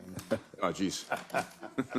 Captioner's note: laugh